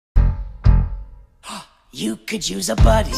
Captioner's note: gasp